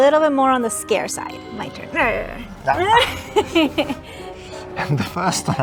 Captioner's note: both laughing